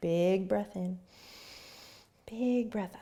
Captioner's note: inhaling